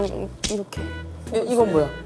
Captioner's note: slap